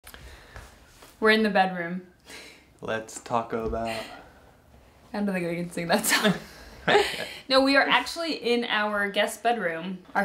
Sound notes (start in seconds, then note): 2.1 laughs; 6.0 both laughing